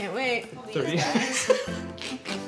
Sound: laughs, snorts

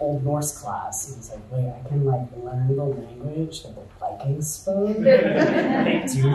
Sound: audience chuckles

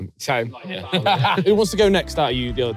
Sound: laughs

